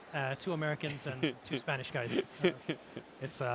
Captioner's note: laughs